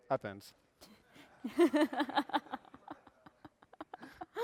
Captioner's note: laughter